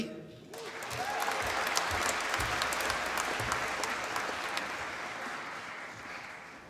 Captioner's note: applause